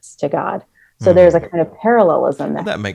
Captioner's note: hums